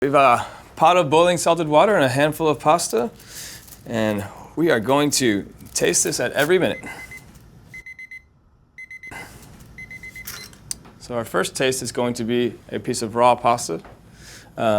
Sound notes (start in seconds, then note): 6.8 timer ringing